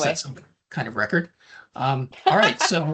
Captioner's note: laughs